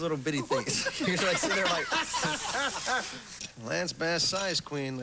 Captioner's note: slurp